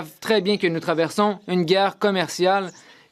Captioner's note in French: voix de l'interprète